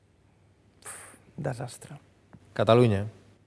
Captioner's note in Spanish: suspira